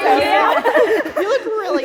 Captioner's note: laughter